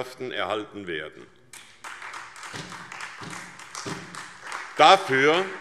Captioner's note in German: Beifall SPD